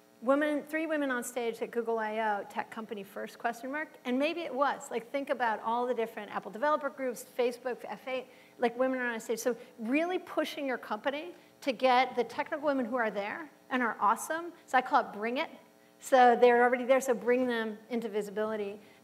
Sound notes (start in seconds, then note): none